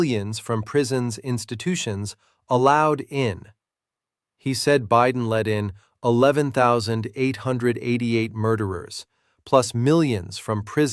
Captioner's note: sarcastic